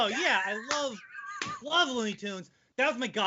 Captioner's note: laughing